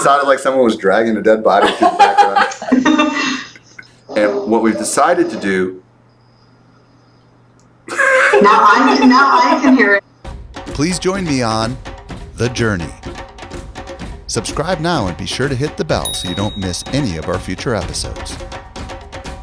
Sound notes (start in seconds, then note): 1.5 laughter; 7.8 laughter; 19.1 rhythmic instrumental music